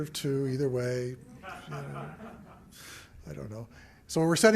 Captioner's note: laughter